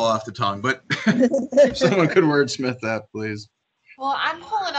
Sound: laughs

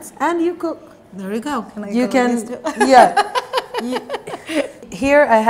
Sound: laughs

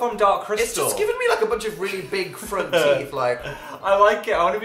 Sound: laughs

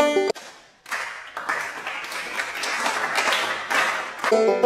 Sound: slow applause

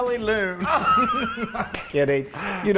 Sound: laugh

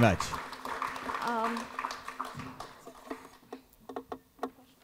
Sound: applause

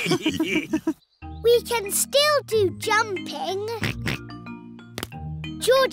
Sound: all laughing; oinks

